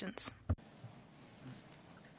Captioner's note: speaking French